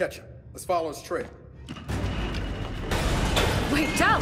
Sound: footsteps

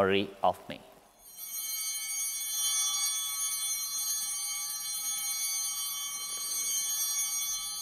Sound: bell ringing

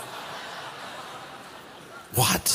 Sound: laughter

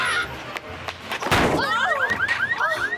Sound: car alarm

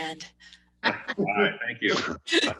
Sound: laughter

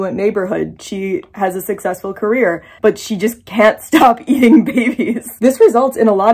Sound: laughing

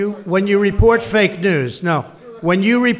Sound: off-mic

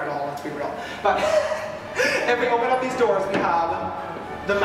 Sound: laughs

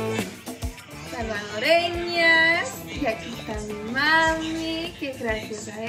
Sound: speaks in foreign language

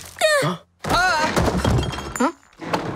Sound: yells

